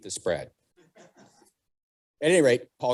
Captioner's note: audience laughing